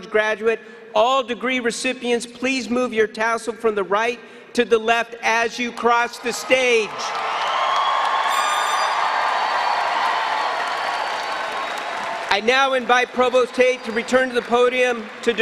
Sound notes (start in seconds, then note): 8.3 air horn